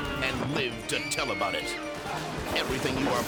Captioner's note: person screams; person shrieks